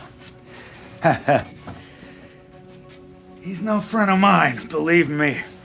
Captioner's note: laughs